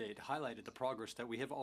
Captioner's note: speaking in French